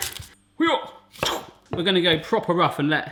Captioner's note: sharp chopping